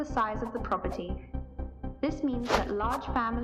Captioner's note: continuous swooshing